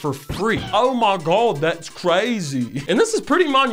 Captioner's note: bad British accent